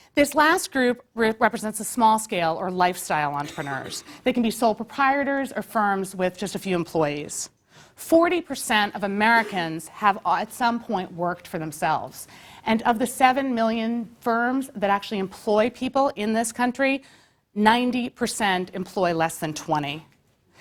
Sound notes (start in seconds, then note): 3.4 cough